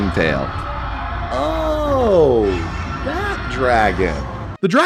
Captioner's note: roaring